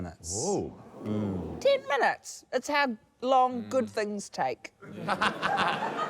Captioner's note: laughter